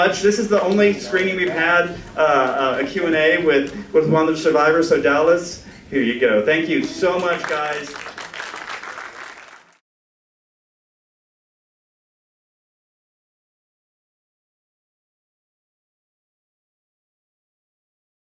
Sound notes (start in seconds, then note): 6.8 applause